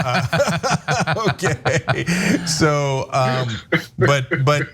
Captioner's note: laugh